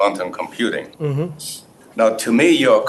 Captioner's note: hums